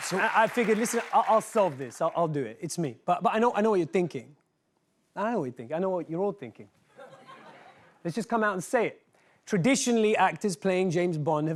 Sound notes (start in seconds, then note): 6.9 laughter